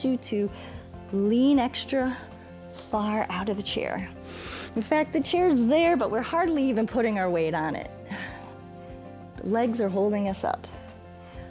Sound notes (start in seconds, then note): 4.2 inhales